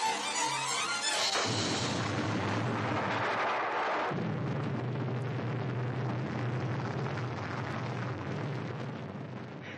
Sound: boom

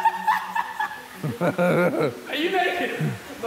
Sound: JJ giggling

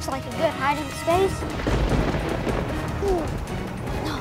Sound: thundering

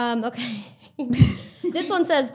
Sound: both laughing

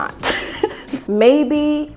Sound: laughing

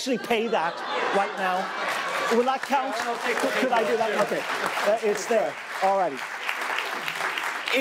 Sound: applause

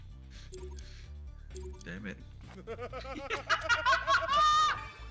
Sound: laugh

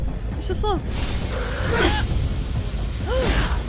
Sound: crash

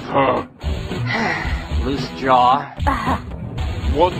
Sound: sighs

